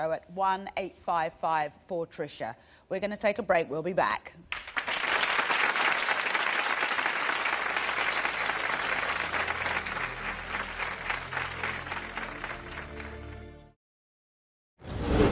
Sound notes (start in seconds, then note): 4.6 audience applause; 12.2 slow music